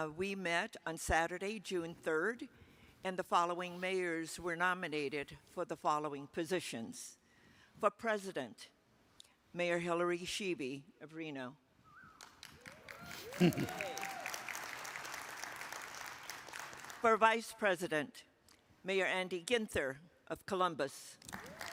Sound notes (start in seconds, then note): 11.8 attendee whistling; 12.2 attendees applaud; 12.2 attendees applauding; 12.2 attendees cheer, applaud; 13.0 attendee chuckling; 21.2 attendees applauding; 21.4 attendee cheers